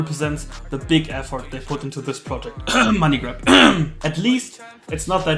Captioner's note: hust